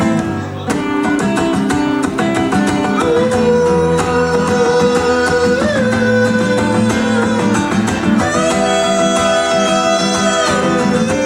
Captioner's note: ooooohhoOOOOooooAAAoohahhoahOOOAHHAOHH